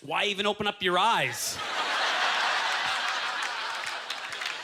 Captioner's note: audience laughter